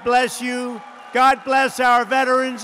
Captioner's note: applause